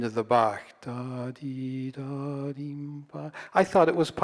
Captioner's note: humming